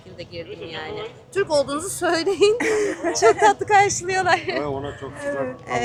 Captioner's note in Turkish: kahkaha